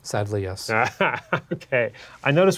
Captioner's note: laughs